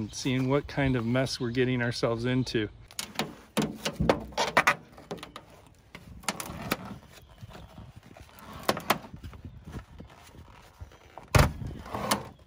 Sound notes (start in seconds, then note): 2.9 pulling off panels